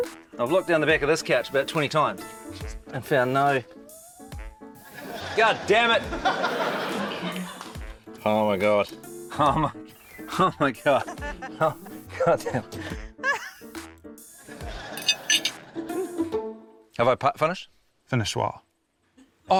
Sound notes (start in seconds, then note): 13.1 laughs